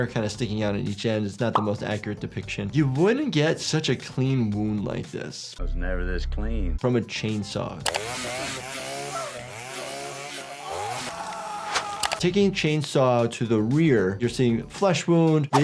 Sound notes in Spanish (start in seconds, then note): 7.8 sierra acelerando; 9.6 Greg gritando